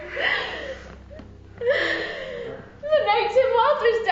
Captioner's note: sobbing